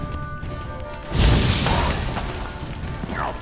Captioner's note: flames whoosh